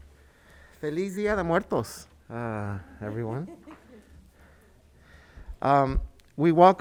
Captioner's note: speaks in foreign language